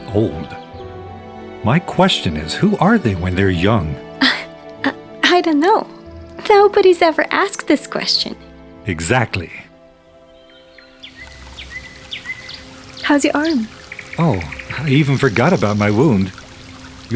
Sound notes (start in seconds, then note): 4.2 chuckles; 11.2 birds chirp